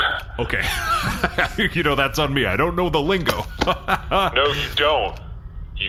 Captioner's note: chuckling